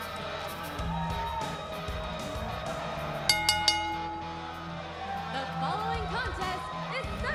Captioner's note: bell ringing